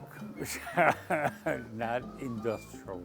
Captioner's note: laughs